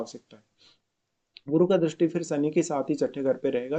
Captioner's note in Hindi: नाक से की जाने वाली आवाज़